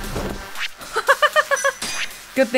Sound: laughs

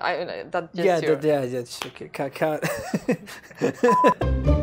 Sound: laughter

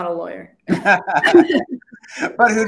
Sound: laughter

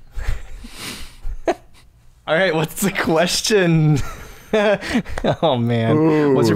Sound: laughs

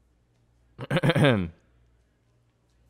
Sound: clears throat

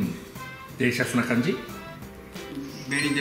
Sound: mimicking foreigners

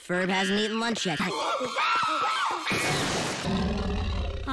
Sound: screeches in sub

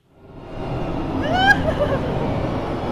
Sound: evil laugh

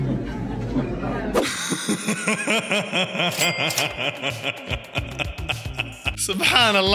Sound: laughter

